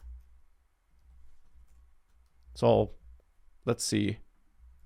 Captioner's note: clicking